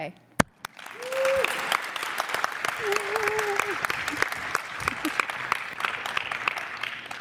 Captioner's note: applause